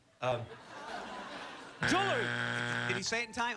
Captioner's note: buzzer